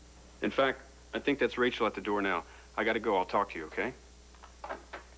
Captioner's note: knock on door